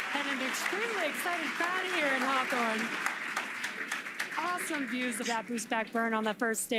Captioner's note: cheering and applauding